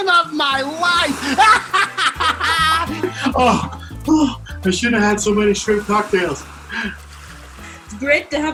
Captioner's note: laughs